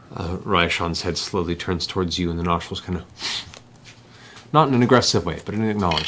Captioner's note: snort